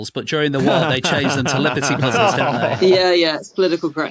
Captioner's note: group chuckling